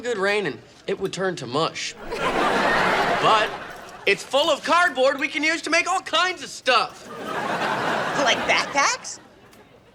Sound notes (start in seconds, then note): 6.9 audience laughing